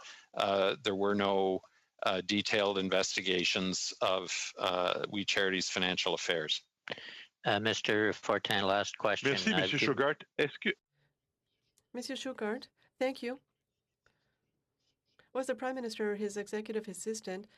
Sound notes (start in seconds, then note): 15.0 speaking French